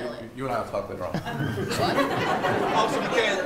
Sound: attendees laughing

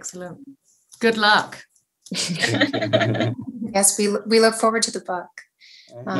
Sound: laughter

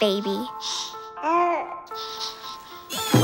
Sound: cooing

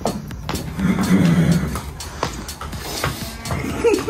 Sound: horse neigh; laughter

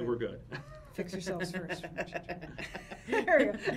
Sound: laughs

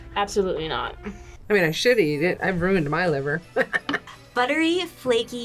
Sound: laughs

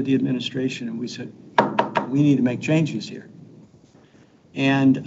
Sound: fist bangs

